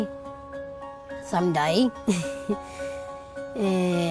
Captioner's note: chuckles